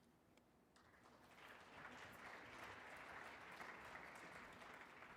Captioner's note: audience applauding